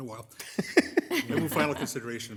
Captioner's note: laughing